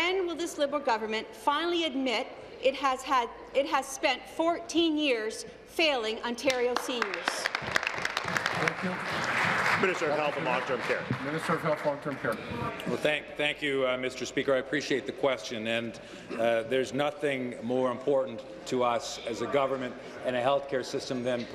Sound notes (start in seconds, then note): 10.6 applause